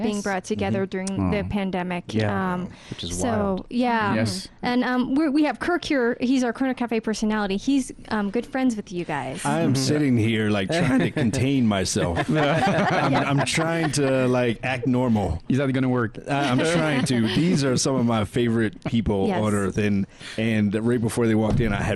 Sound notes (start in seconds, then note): 11.8 laughing